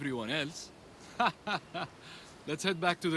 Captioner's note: laughs